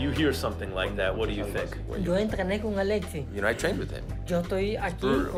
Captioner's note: speaking Spanish